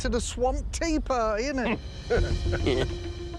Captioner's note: chuckles